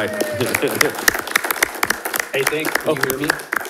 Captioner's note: attendees applauding